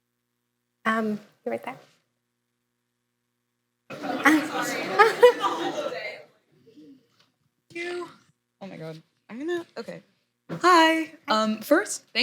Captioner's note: laughter